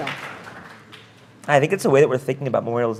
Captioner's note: applause